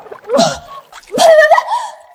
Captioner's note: ptooey ptooey ptooey